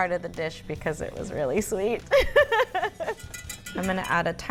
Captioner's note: laughs